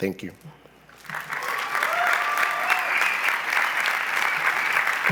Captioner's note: cheering and applause